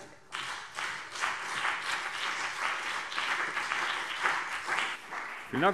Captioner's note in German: Beifall CDU und BÜNDNIS 90/DIE GRÜNEN